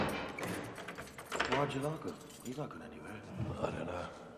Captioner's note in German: Knarren der Tür; Schloss schiebt sich zu